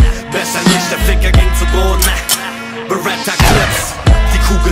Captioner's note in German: Gunshot